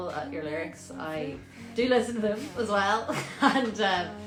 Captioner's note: laughter